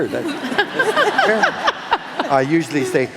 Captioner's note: laughing